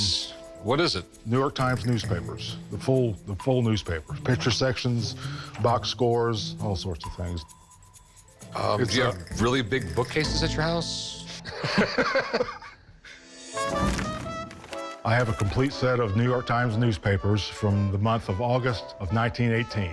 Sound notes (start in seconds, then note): 11.3 Rick laughs; 13.5 horn playing